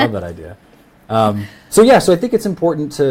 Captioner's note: laughs